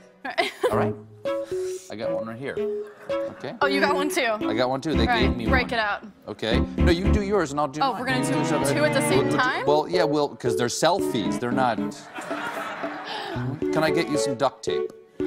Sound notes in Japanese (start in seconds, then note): 12.5 群衆は笑い始めます